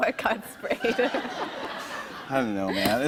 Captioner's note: laughter